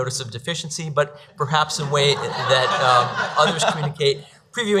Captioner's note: audience laughs